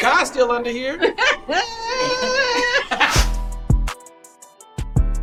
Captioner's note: woman laughing; upbeat hip hop music